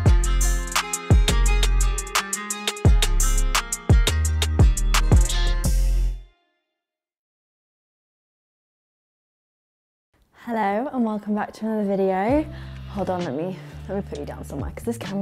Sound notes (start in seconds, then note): none